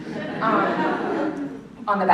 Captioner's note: laughter